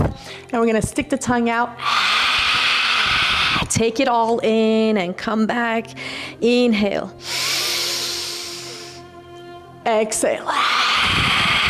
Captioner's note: snorts